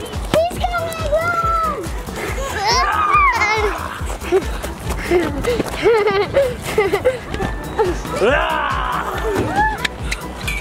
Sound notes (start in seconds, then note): 4.6 laughs